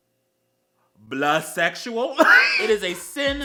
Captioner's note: hardcore wHEEZE